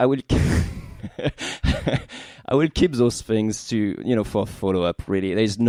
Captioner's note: laughing